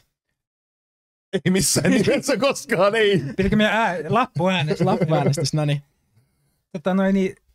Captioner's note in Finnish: nauraa